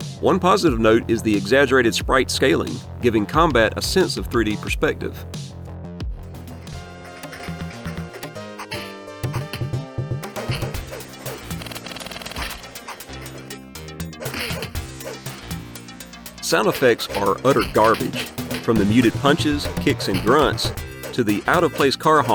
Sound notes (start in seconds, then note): 7.3 game sounds